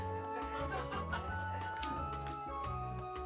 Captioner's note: laughs